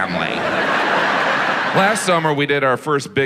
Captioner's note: audience laughs